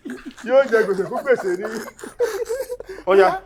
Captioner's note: everyone laughs